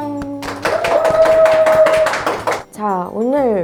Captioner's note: applaud